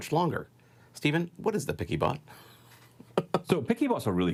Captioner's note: laughs